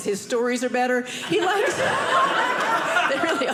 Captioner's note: audience laughing